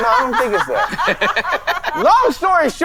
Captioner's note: all laughing